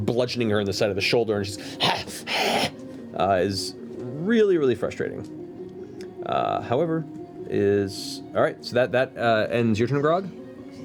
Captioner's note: growling noises